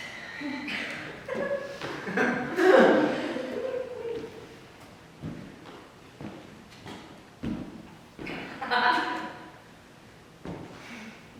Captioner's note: scattered audience laughter